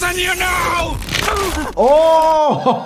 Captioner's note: crunch